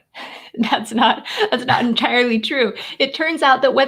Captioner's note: laughs